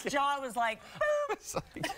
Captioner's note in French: laughter